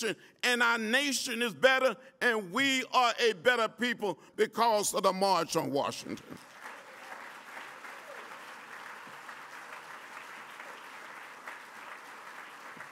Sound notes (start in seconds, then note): 6.2 applause